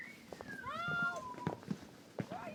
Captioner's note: Buck whistles